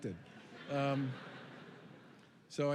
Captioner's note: laughter